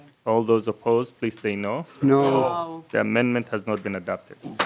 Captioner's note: chorus of ayes